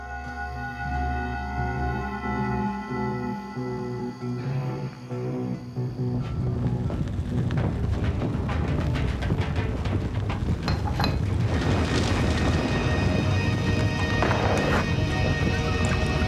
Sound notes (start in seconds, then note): 0.3 dramatic music; 6.9 fire roaring; 13.5 intense music